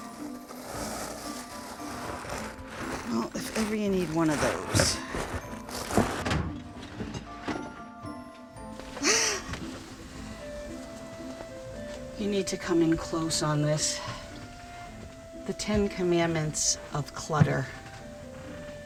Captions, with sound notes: If ever you need one of those. [gasps] You need to come in close on this. The Ten Commandments of clutter.